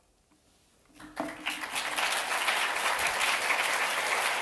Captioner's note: audience clapping